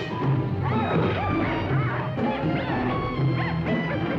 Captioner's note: hyenas yipping